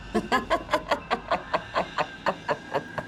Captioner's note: evil laughing